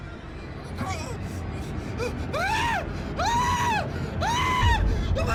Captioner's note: screams